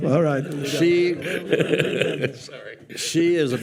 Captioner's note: participants and audience laughing